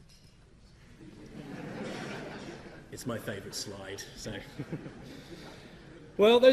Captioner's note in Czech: Publikum se směje zobrazenému obrázku